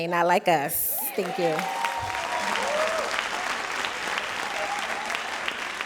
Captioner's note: audience cheering; audience applauding